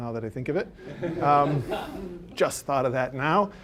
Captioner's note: audience laughing